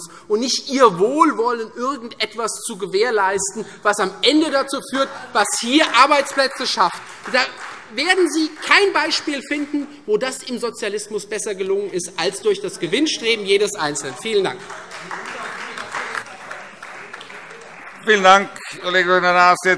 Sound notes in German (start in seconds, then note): 5.8 Beifall Freie Demokraten - Zuruf BÜNDNIS 90/DIE GRÜNEN: Falsch!; 13.9 Beifall Freie Demokraten und vereinzelt AfD